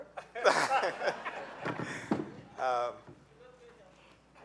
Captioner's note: laughing